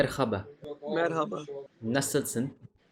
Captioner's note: Turkish